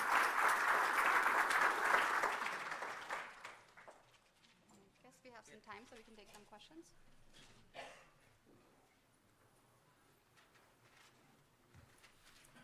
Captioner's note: applause